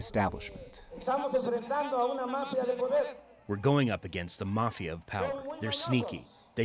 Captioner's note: through translator